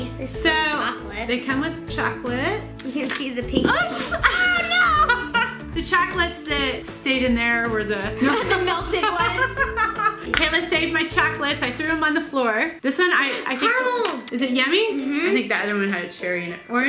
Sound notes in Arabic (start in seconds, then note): 3.7 يضحك; 9.8 يضحك